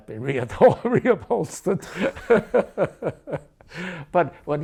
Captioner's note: laughs